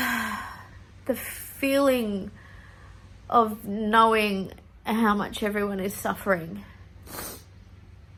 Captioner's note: sighs heavily; sniffs